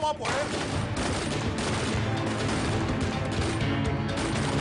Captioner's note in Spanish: Disparos